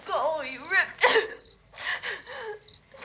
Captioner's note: sobs